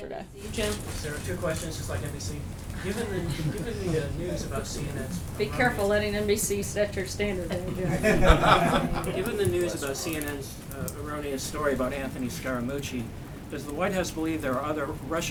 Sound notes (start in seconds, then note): 7.5 laughter